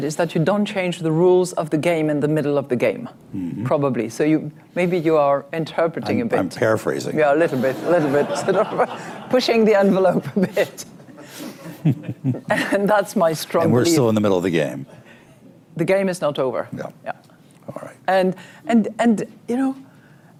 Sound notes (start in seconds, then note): 7.8 laughter; 11.6 laughs